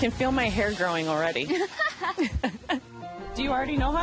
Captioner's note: both laugh